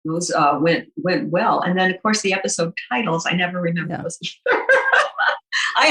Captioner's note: laughs